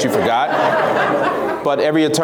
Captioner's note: laughs